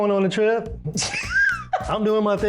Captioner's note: laughing